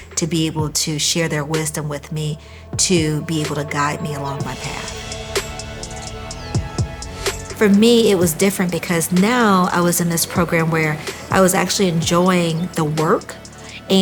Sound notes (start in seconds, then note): 5.9 teacher faintly speaking